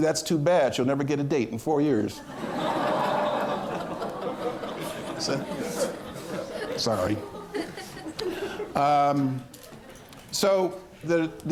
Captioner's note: laughter